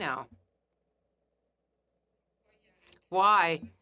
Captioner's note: speaking French